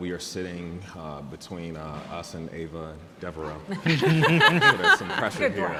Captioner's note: panelists laughing